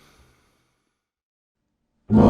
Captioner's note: inhale